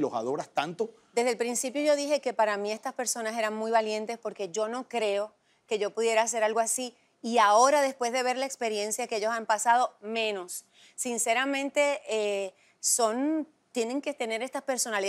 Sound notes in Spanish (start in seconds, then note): none